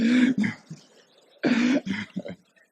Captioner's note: laughter